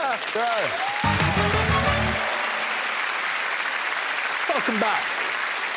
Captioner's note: applause